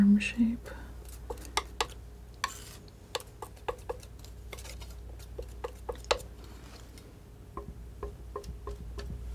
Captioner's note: tapping